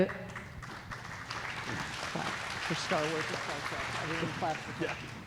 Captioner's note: audience clapping